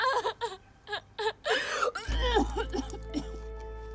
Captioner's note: retching